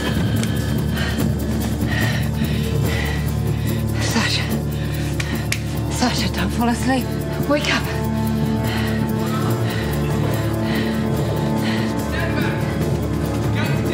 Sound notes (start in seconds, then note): 0.0 sighs